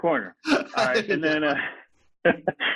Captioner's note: laughs